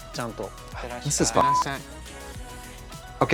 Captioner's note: beep